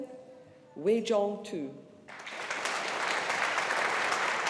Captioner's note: audience applauding